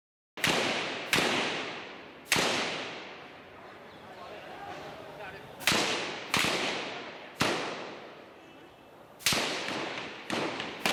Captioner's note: gunshots